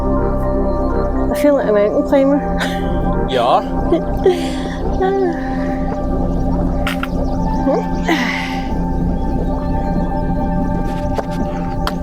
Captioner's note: laughter